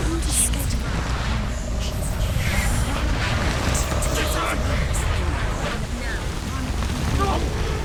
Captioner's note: frightening noise intensifies; frightening noise continues